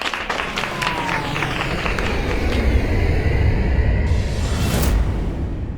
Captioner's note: students applauding; airplanes loudly soaring